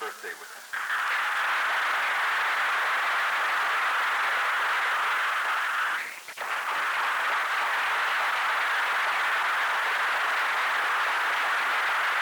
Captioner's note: applause